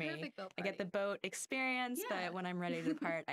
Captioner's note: laughing